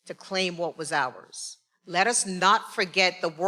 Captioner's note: none